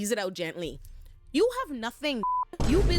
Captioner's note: beep